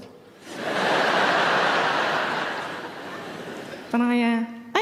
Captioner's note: audience laughing